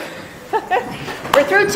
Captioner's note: laughing